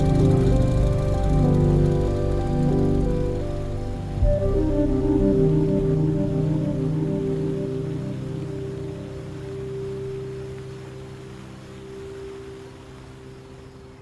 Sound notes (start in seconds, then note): 4.1 whimsical music; 7.1 crickets chirping